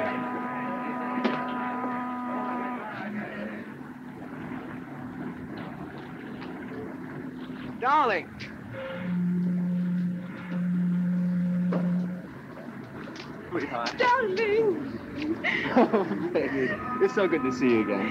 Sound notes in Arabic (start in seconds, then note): 8.6 صوت البوق; 15.2 كلاهما يضحك